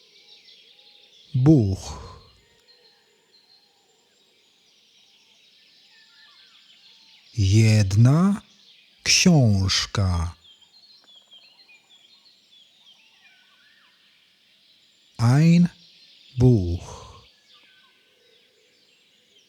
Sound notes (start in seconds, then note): 2.3 german; 16.6 german